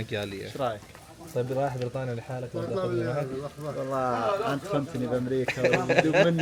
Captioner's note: Arabic